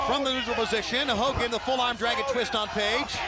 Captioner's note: crowd cheering